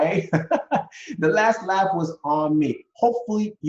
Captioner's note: laughs